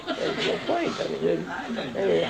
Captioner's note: laughter